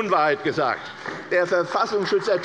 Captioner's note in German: Beifall bei der CDU